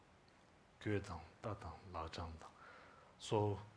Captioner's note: speaking in Tibetan